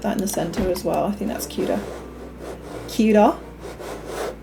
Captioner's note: extremely poor Aussie accent